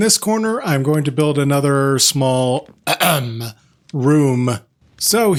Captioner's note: ahem